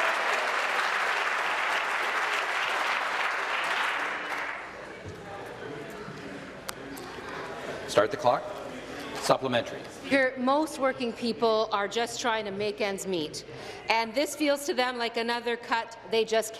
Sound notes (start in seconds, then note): 1.6 applause